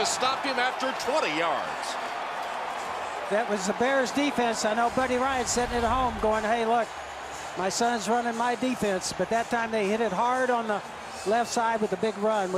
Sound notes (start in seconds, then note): 2.4 cheering